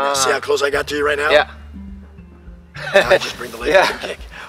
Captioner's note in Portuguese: Risos